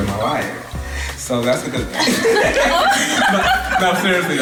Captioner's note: laughter